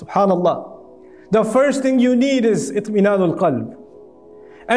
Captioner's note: Arabic